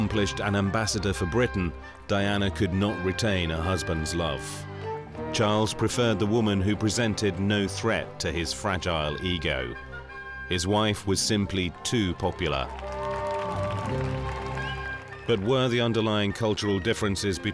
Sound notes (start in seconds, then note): 13.3 crowd cheering